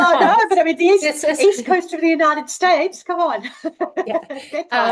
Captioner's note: laughs